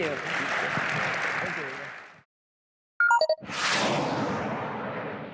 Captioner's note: applause